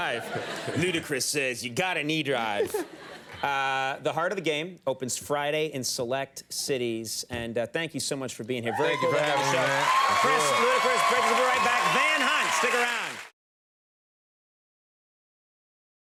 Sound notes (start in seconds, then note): 0.0 laughs; 8.7 audience cheers